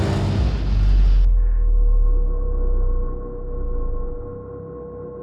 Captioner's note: engine humming